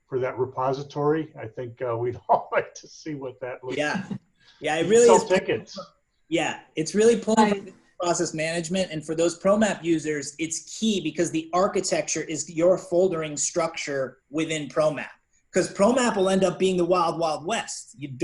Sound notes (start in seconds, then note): 0.2 laughing; 7.2 faintly speaking